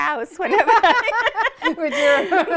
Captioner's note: laughter